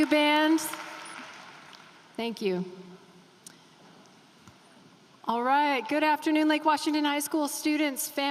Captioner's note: applause